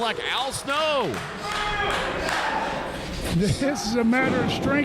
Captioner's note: wrestlers groan